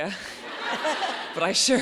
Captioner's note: audience laughs